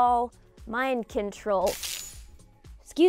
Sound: electricity sizzling

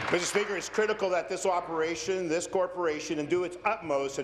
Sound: applause

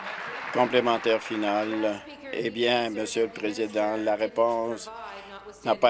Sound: applause

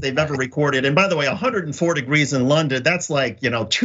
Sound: laugh

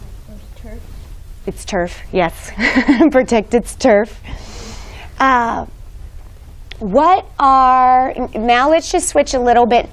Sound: giggles

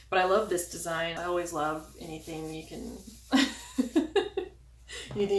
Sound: laughs

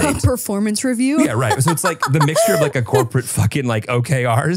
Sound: laughs

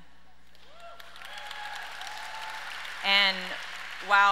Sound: audience cheers and applauds

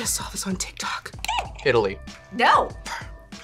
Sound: buzzer squeaks

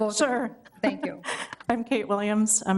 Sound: chuckles

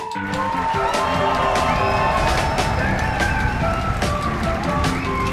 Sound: cheers

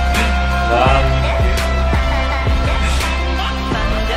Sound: laborious groaning!

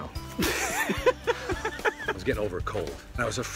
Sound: Bobcat laughs

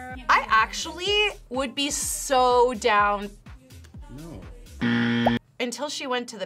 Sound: buzzer rings

